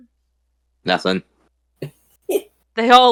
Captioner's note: chuckles